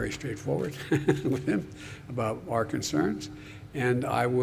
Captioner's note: laughs